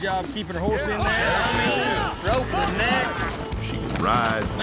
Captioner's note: hoofbeats, shouting